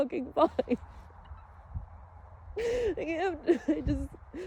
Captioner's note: light sobs trail